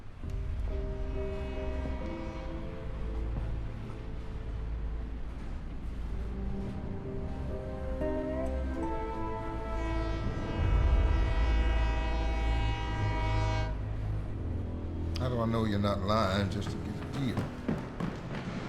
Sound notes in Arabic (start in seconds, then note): 0.1 بوق القطار، خطوات بطيئة; 4.8 بوق القطار